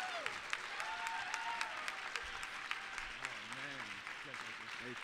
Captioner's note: applause, cheering